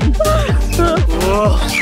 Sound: laughing

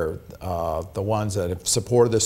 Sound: none

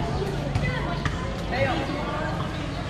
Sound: ball dribbling

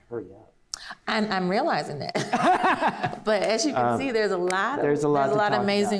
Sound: laughs

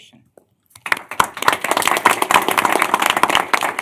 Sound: applause

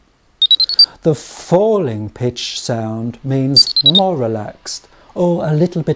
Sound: 3 noumic beeps

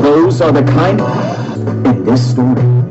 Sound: gasps

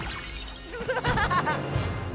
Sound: laughing

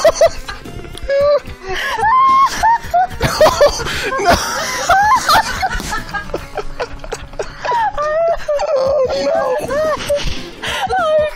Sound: everyone losing it

